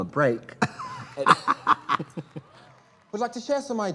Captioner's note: both laugh; crowd applauds